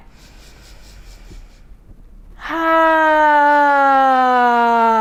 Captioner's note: inhaling and sighing